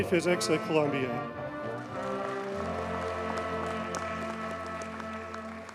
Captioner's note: audience cheers and applauds